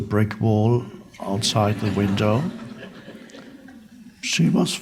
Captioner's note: crowd laughs